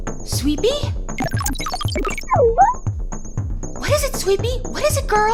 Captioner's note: sweepy beeping